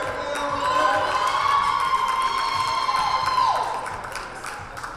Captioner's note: cheering and applause